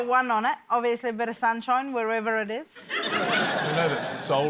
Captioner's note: laughter